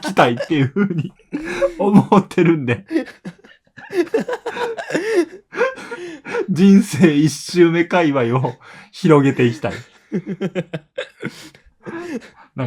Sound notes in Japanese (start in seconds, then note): 3.3 息をのむ音; 3.3 笑い; 11.5 笑い